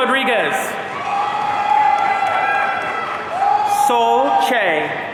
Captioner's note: audience cheering